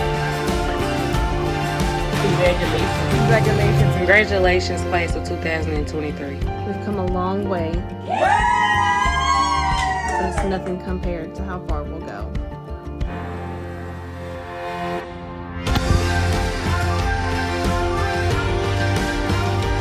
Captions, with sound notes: - Congratulations. - Congratulations. Congratulations Class of 2023. - We've come a long way (people cheering) It's nothing compared to how far we'll go. (upbeat music continues)